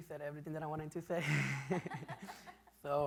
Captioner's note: laughs